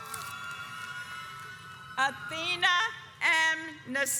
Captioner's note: audience cheers